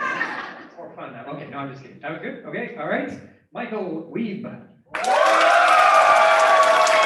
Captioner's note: applause